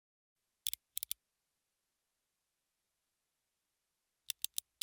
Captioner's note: clicking